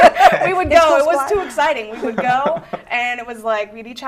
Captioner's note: laughter